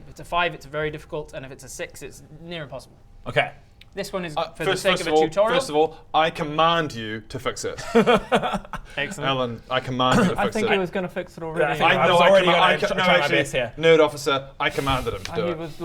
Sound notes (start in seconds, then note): 7.8 downtrodden laugh